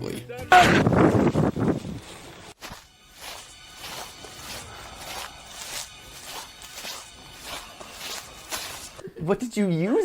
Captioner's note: wind and stepping on leaves and tense music